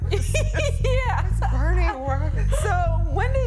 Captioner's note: giggling